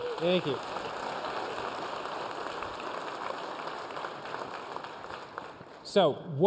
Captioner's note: applause